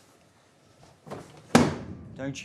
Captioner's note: silence; slam